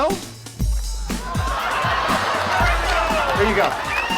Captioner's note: audience laughing